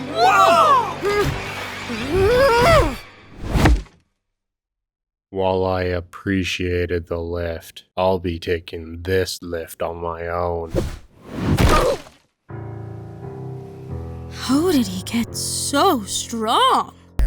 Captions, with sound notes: Cabby, Nickel and Balloon: WHOA! [Silver Spoon grunts] -While I appreciated the lift, I'll be taking this lift on my own. [Crash] -How did he get SO STRONG?